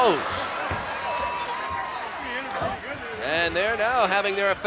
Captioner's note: applause